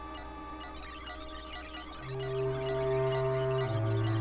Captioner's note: faster beeping